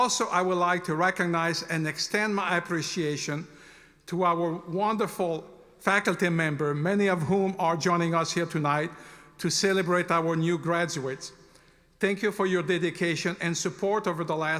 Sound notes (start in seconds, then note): none